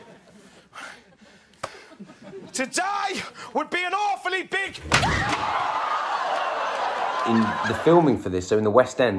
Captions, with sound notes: To die would be an awfully big- [Slam and screams] The filming for this... so in the West End